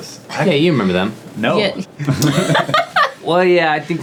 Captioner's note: laughing